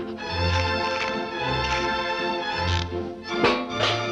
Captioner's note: dog panting; bugs crunching; trash can clanging